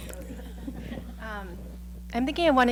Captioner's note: laughing